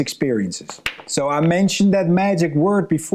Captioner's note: pool balls clanking